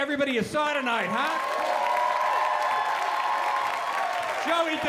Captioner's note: applause